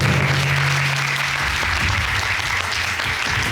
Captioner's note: applauding